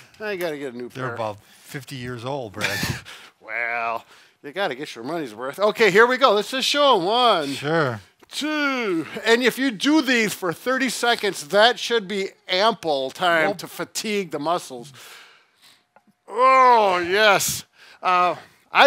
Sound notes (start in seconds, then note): 2.6 laughing